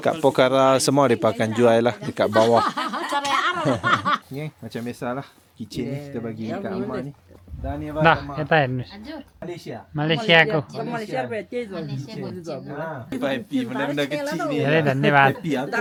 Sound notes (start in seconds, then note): 7.6 speaking Nepali; 10.8 speaking Nepali